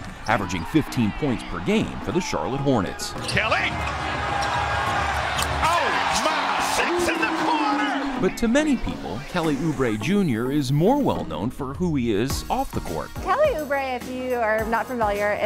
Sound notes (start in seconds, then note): 4.8 audience cheers